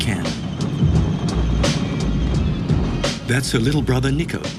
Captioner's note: whirring